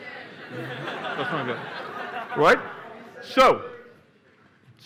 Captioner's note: laughter